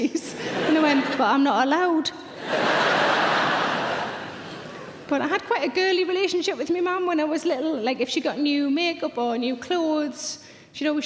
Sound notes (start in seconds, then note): 2.3 audience laughs